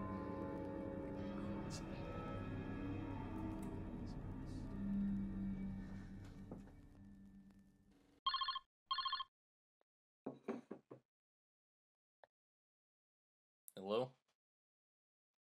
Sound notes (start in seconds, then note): 0.0 Ezra muttering; 0.0 tense music; 8.9 phone ringing